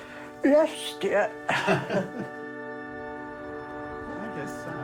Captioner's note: laughs; soulful music